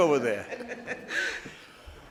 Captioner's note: laughing